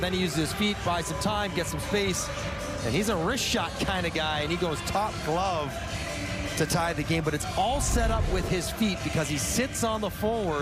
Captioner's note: horn